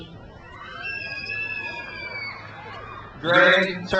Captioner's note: crowd cheers